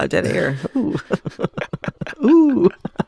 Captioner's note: laughter